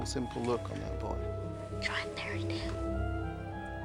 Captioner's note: whispering